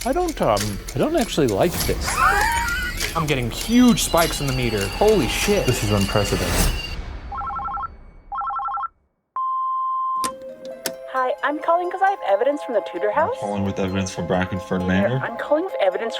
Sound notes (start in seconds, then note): 1.8 laughing; 8.3 phone ringing